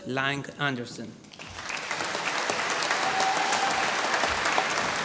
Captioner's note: applause